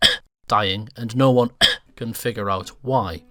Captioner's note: cough; cough